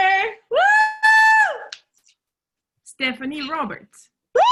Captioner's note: cheering